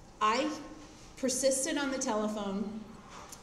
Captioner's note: none